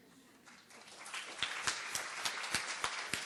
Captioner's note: applause